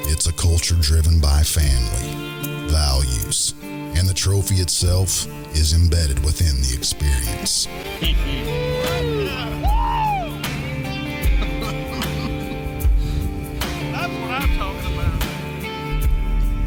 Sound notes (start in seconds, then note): 7.9 mellow country rock; 11.2 man laughing